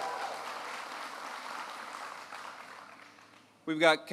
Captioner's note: applause